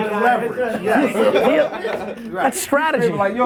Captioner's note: laughs